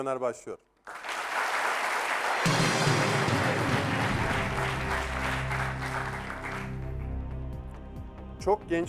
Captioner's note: applause